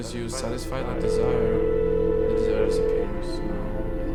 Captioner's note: dial tone ringing